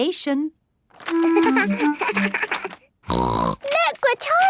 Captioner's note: giggling; snorts